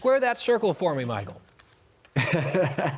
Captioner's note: laughter